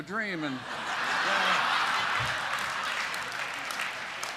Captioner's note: laughter